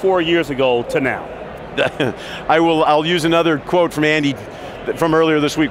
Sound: chuckles

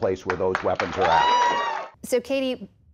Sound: applause; cheering

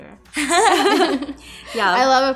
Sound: laughing

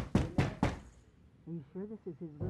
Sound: knocking

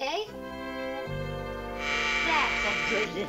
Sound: doorbell buzzes

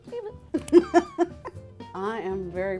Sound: laughs

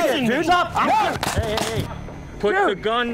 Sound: multiple gun shots

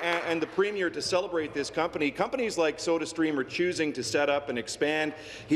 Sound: applause

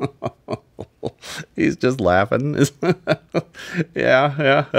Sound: laughs

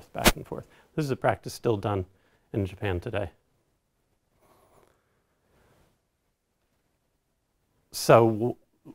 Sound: pause

